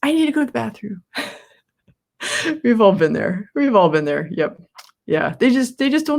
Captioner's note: laughs